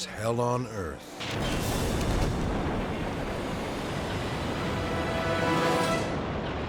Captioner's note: intense dramatic music; explosion pounds